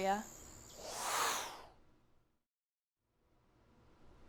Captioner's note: whoosh